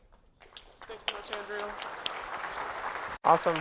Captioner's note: applause